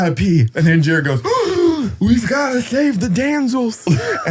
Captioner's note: gasps